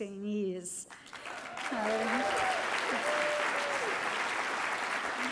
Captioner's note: cheering and applause